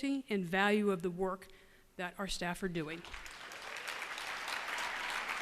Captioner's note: applause